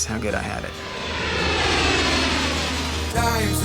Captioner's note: plane whooshes